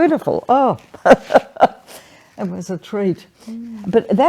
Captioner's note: laughs